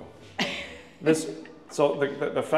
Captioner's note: chuckles